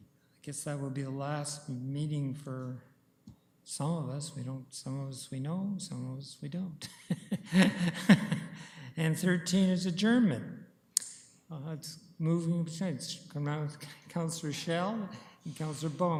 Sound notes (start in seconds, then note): 7.0 laughs